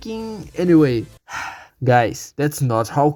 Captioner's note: sigh